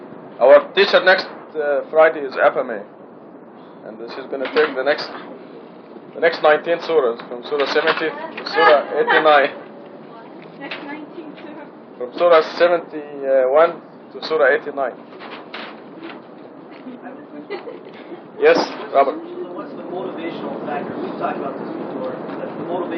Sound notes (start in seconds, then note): 17.3 laughter